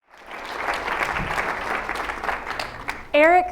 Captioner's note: applause